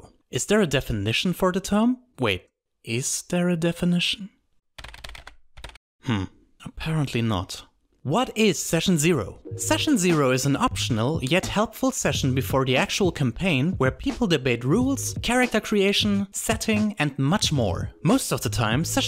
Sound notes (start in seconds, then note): 4.8 typing sounds